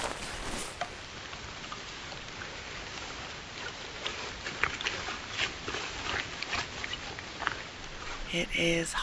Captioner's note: rain